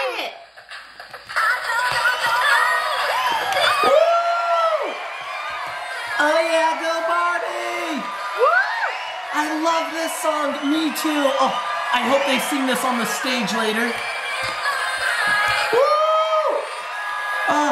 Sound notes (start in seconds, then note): 0.2 pop music; 2.9 cheers from the crowd